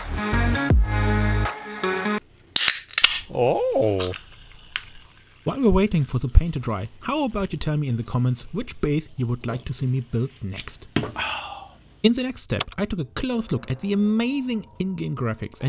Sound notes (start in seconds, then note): 2.5 opening soda can; 3.3 happy Asmon noise